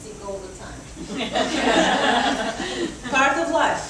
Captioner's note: audience laughs